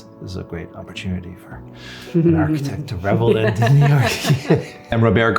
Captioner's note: giggles